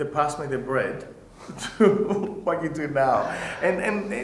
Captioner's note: laughs